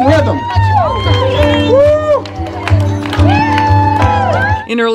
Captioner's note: crowd whoops and cheers